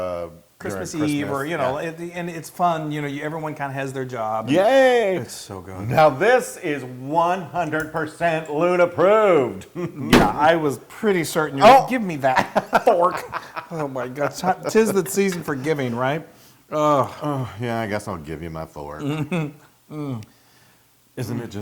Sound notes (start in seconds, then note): 13.2 laugh